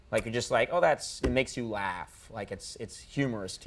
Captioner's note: none